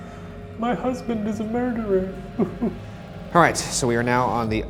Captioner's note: weeping